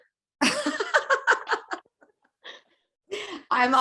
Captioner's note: both laughing